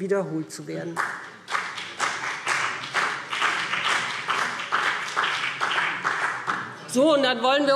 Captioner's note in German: Beifall BÜNDNIS 90/DIE GRÜNEN und vereinzelt CDU